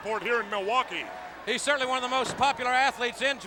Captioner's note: body thudding